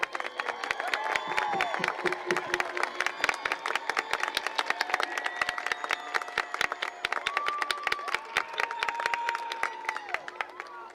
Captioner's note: applause and cheering